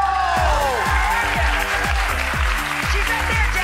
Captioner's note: audience applause